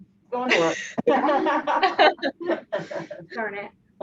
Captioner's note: laughs